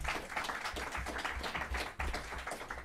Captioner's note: applause